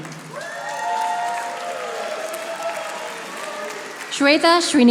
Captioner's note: audience applauding